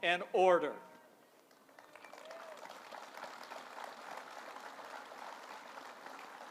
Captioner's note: applause